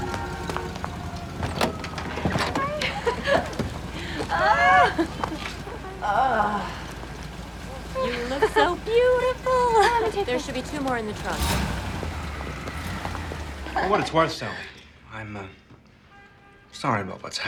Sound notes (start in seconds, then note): 2.8 laughing